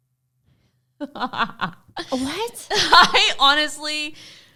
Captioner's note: laughs